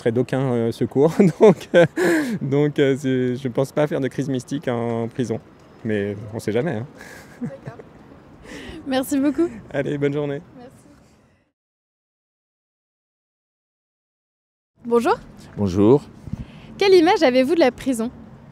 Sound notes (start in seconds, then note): 1.4 laugh; 7.0 laughs